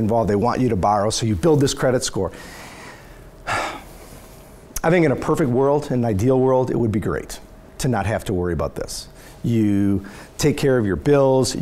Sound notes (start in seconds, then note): 3.4 sighs